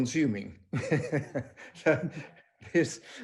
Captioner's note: laughing